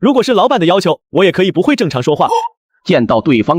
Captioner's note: not speaking normally